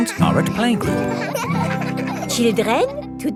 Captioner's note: children laughing